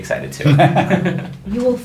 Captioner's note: laughing